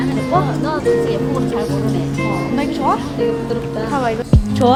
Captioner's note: speaks foreign language